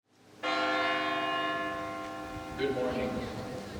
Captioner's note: bell booming